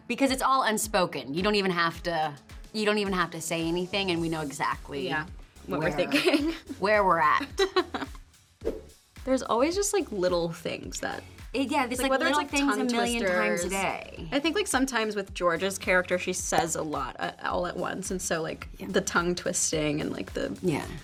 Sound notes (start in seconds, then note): 7.5 Toni laughs; 8.6 graphics swoosh